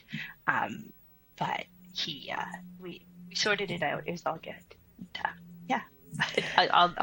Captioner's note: chuckles